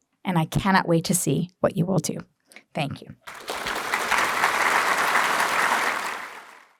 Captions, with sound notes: And I cannot wait to see what you will do. Thank you. [APPLAUSE]